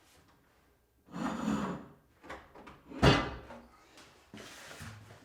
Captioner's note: metal scraping